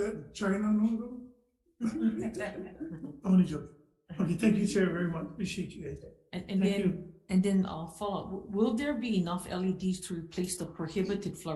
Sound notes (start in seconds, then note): 1.8 group laughing